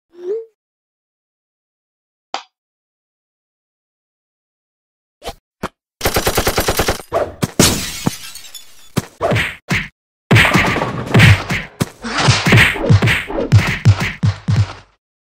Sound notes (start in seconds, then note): 6.0 gunfire; 7.3 fighting sound effects